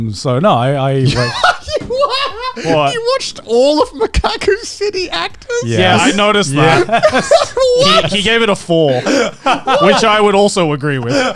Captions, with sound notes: So no I. (laughs) - You watched all of "Mekaku City Actors?" - Yes. - Yeah, I noticed that, he gave it a four, which I would also agree with that.